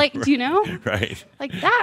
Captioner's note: chuckling